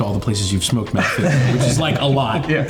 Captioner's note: all laughing